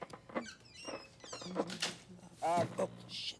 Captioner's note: door closes